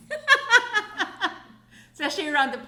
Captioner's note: laughing